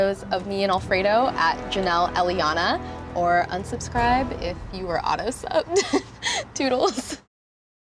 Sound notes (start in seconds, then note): 5.7 laughs